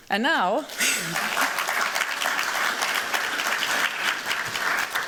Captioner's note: applause